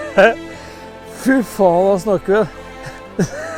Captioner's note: giggle